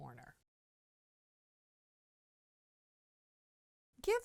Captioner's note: no Sound Present